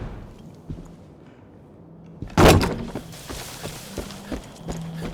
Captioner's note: whoosh; punching